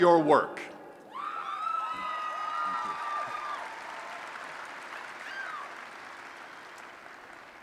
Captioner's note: applause and Cheering